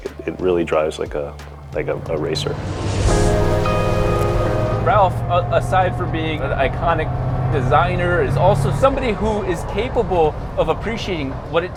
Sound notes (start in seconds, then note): 2.6 engine revving